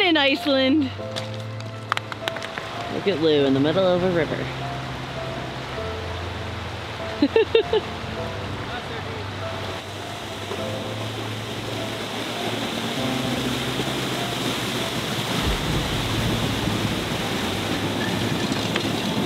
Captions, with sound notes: When in Iceland. Look at Lou in the middle of a river. (water gushing) (chuckling) (water splashing loudly)